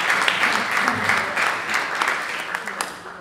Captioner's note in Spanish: aplausos